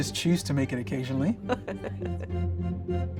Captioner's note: laughter; bright energetic music